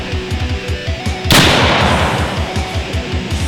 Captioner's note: gunshot